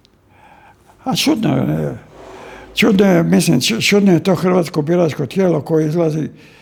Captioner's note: coughs